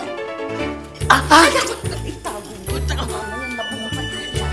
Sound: gasps

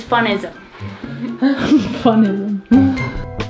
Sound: giggles

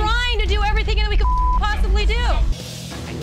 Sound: beep

